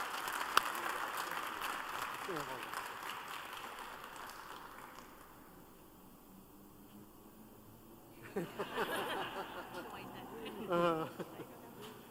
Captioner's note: applause